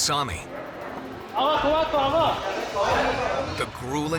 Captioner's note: speaking in foreign language